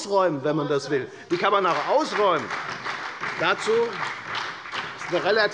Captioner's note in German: Beifall bei der FDP, der SPD und der LINKEN